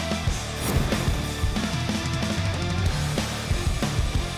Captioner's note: slicing